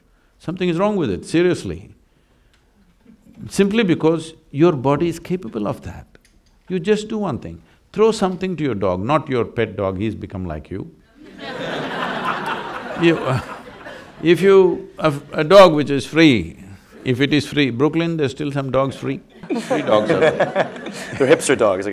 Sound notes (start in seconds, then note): 11.1 laughter; 19.4 laughter